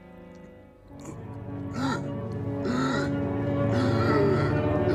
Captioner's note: terengah-engah